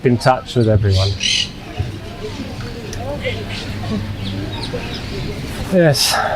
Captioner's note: sighing